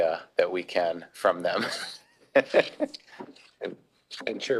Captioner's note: laughs